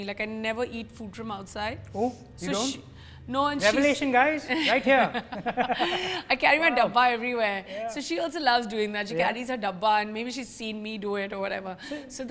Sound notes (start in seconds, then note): 4.5 laughter